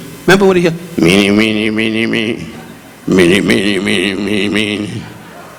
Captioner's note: Don speaking gibberish